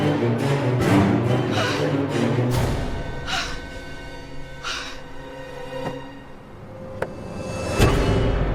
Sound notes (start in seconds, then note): 0.0 dramatic music; 1.5 Jackie groans; 2.5 ominous music